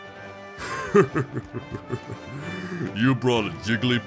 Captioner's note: laughs